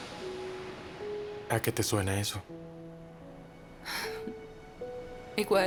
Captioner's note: ocean waves crashing; slow orchestral music